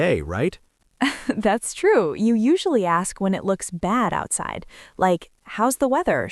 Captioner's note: laughs